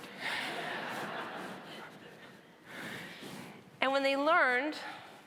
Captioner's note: audience laughing